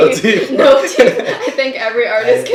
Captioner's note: both laughing